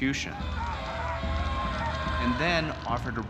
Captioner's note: shouting